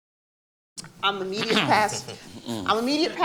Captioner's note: clears throat